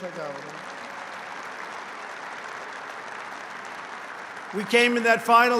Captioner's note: applause